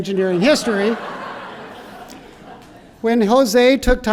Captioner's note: laughter